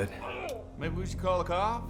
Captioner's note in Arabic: رجل يئن